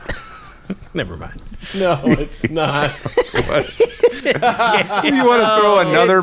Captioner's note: everyone laughing